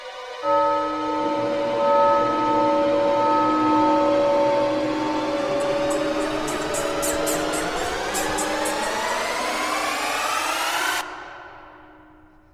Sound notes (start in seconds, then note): 0.4 bells Tolling; 5.6 raccoon Noises